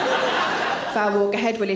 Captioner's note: audience laughing